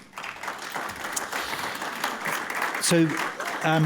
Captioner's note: applause